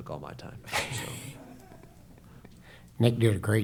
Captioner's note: laughter